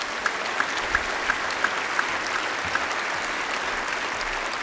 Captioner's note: applause